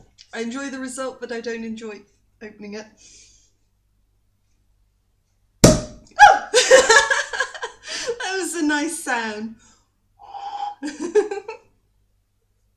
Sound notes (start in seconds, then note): 5.6 cork pops